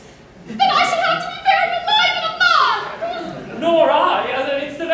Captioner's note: yells